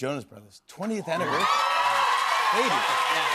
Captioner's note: cheers and applause